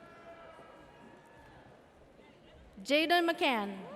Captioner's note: audience cheers